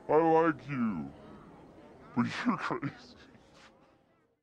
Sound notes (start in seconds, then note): 0.1 slowed-down voice